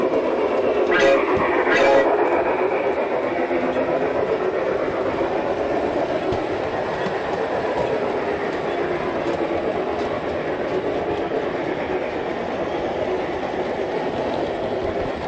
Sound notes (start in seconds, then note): 0.8 sound of a train horn